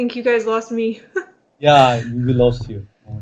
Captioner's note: laugh